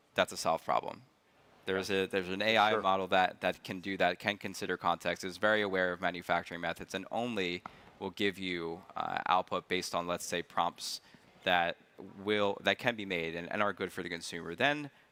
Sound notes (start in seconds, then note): none